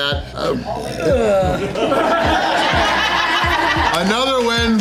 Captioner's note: crowd laughter